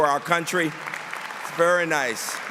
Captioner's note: applause